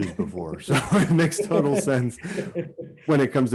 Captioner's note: both laugh